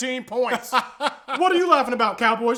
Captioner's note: laughing